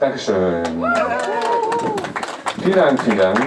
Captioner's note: applause